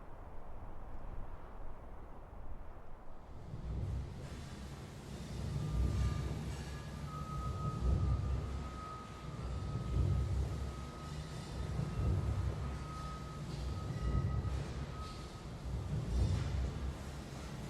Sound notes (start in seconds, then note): 5.7 industrial ambience